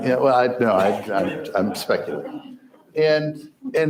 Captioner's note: crowd laughs